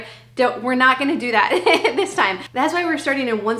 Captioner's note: laughing